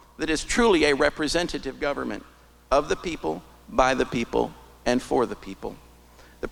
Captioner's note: none